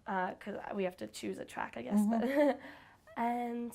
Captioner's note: chuckles